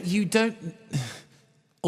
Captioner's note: sigh